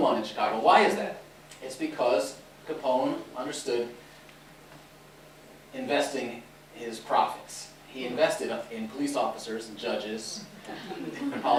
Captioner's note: laughter